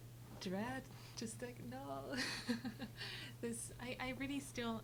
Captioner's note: laughs